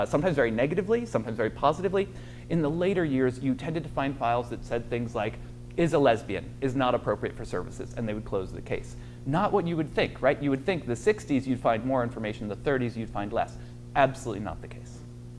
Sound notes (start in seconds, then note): none